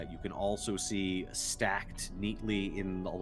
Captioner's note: none